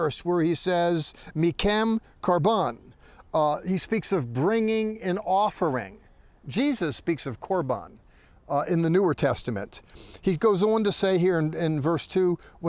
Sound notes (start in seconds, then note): 1.6 speaking in Hebrew; 7.4 speaking in Hebrew